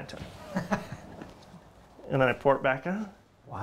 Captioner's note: laughs